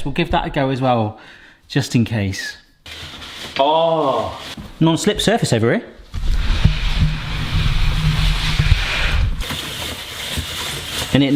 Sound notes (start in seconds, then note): 6.1 tripod scraping; 9.4 spiralizer scraping